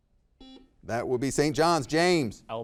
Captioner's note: buzzer beeping